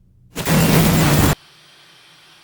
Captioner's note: static; crashing